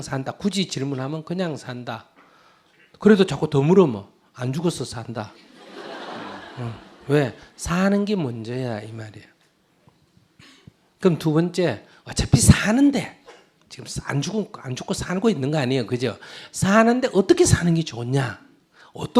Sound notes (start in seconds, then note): 5.4 audience laughs